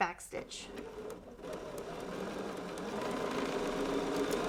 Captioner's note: machine whirring